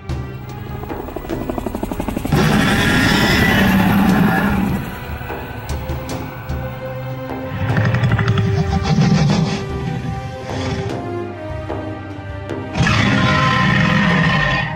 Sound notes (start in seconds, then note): 1.7 helicopter flying overhead; 4.7 Indominus Rex roars